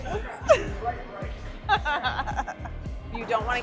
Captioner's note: laughing